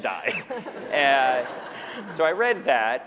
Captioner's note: laughter